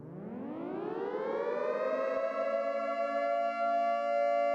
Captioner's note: storm siren